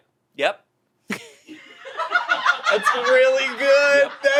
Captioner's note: they laugh